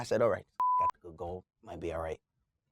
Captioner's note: beep